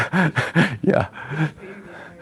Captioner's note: laughter